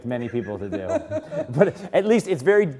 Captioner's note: laugh